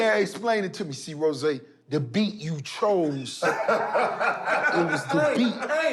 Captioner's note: laughter